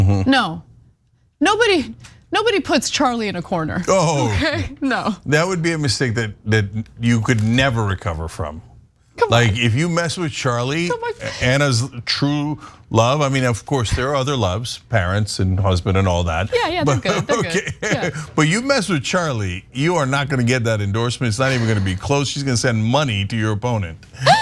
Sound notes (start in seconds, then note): 16.6 laugh; 24.2 laugh